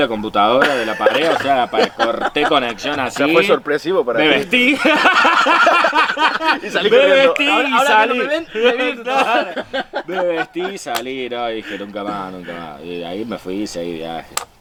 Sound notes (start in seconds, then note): 4.6 laughs